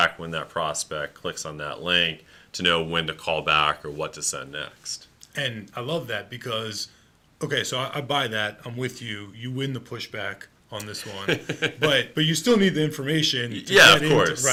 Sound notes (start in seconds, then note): 11.0 laughing